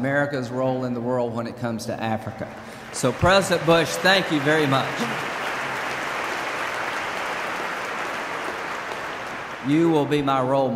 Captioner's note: applause